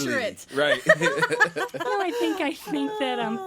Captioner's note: all laughing